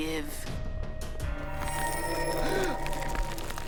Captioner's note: magical buzzing; Brax gasps